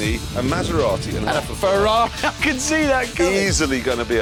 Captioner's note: laughs